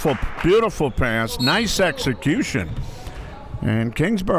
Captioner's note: referee blows whistle